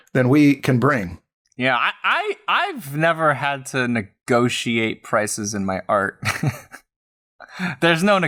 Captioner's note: chuckles